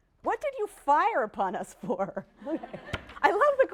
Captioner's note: laughter